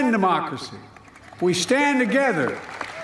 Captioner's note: applause